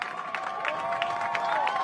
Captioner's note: cheers and applause